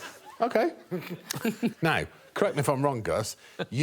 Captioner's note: audience laughing; chuckling